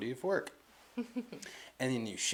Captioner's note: chuckles